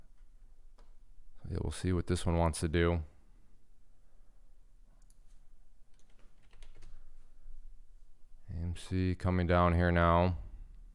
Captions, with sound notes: We'll see what this one wants to do. (typing) AMC coming down here now.